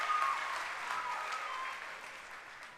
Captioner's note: cheering and applause